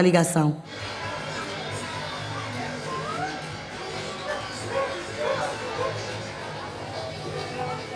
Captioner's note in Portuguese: cães latindo